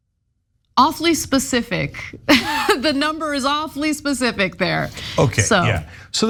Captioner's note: laugh